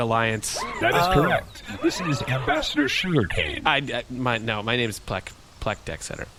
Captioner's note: stammering